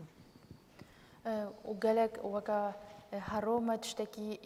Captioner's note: speaking kurdish